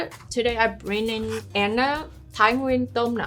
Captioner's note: speaking in foreign language